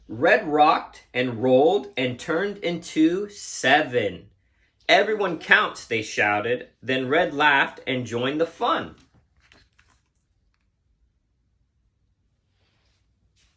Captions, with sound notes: Red rocked and rolled and turned into Seven. "Everyone counts", they shouted. Then Red laughed and joined the fun. (book squeaking)